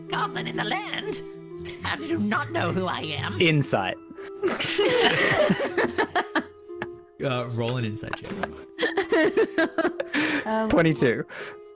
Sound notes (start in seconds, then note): 4.5 approving laughter; 8.1 laughter